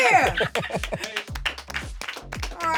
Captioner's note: laughing; light electronic music; applauding